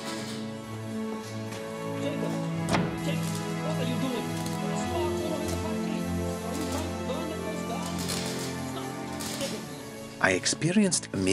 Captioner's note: <i> man scolding in background